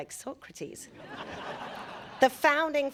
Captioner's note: audience laughing